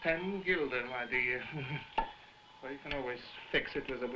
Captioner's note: chuckling; loud popping